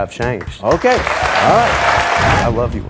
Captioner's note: audience clapping